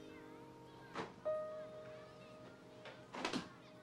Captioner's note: none